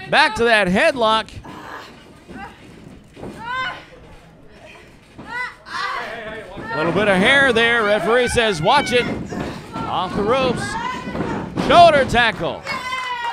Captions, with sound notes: Back to that headlock. (groans) Little bit of hair there. Referee says, "Watch it" Off the ropes. Shoulder tackle.